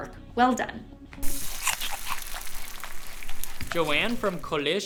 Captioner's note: food sizzling, person chewing